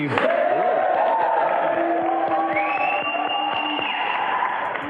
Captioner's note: audience Applause